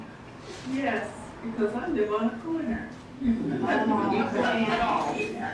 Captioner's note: laughter